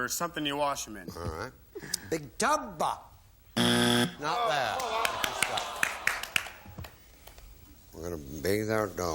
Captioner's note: buzzer